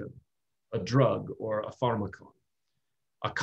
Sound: speaking greek

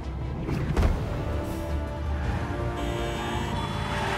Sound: tires screeching; horns blaring

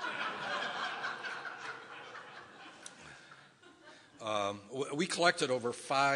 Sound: audience laughing

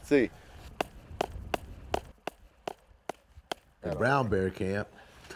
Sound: pounding

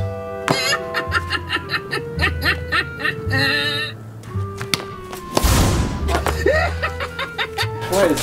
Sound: laughing

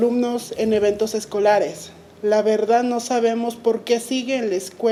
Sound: speaking Spanish

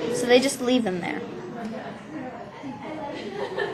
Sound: crowd noises

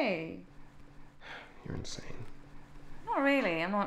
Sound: sighs

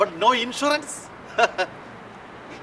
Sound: laughs

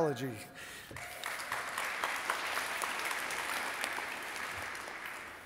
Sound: audience applauding

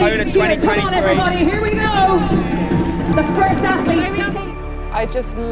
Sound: crowd Cheers

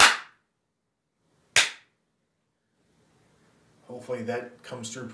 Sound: clapping

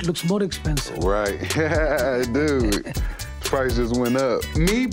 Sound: jeweler laughing; laughing

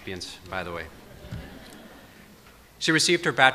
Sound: audience laughs

